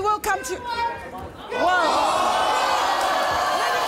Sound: audience boos

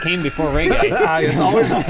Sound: laughing

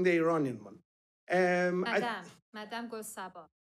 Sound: foreign language spoken

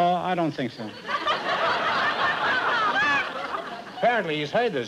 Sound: laughter

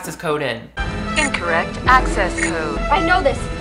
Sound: computer Voice

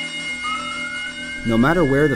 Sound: sounds of siren up and under narration

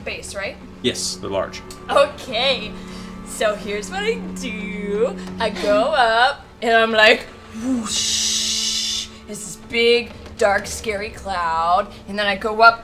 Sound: whoosh

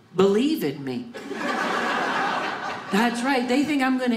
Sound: audience laughing

